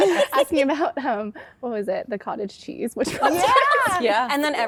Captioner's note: laughter; laughter